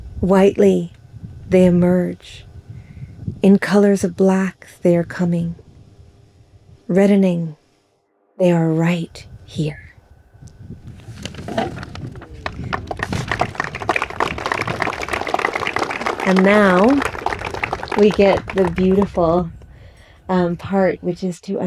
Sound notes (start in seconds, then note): 13.0 audience claps